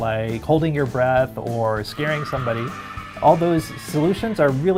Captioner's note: screaming